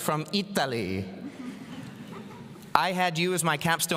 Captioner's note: audience laughing